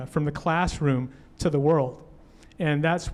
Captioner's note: none